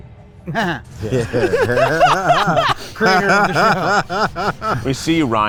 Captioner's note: guys laugh; laughs